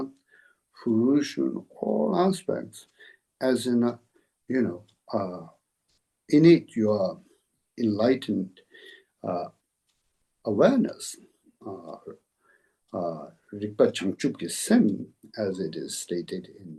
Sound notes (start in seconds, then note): 9.6 tibetan